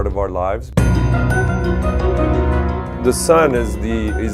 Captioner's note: sound Effects